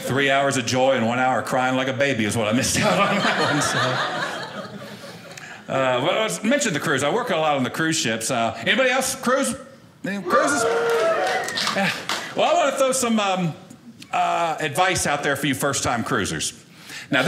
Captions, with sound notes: Three hours of joy and one hour of crying like a baby is what I missed out on. (audience laughing) Well, I mentioned the cruise, I worked a lot on the cruise ships. Anybody else cruise? Cruise? (audience cheering) Well, I want to throw some advice out there for you first time cruisers.